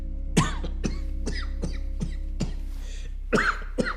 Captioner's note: man coughing